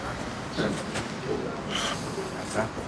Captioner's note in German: Seufzen